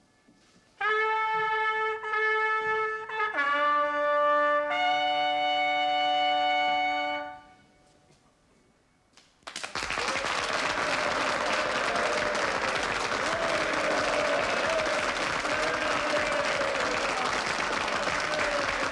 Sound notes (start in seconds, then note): 0.8 trumpet fanfare; 12.3 cheering